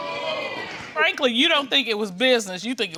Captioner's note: crowd booing